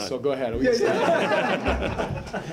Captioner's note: laughter